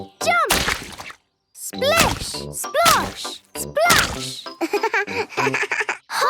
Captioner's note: laugh